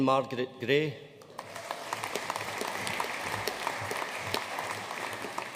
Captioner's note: audience applauding